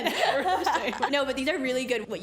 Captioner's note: laughs